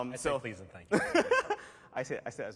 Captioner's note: laughter